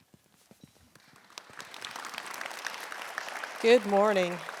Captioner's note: audience applauding